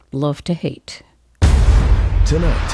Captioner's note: soundbite of tv show, "the bachelorette"